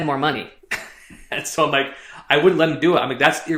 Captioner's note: chuckles